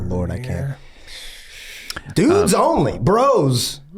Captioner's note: gang sighs